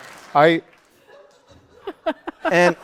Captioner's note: laughter